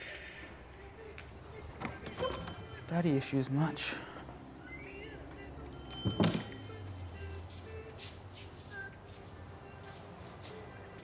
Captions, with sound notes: (bell ringing) - Hi, Detective Warren Deacon,